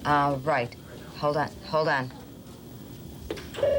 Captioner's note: phone ringing